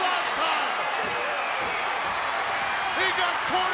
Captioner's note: crowd yelling